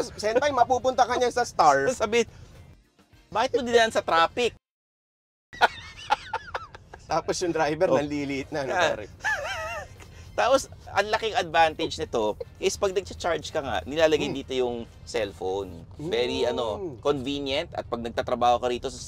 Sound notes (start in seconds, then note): 5.6 laughs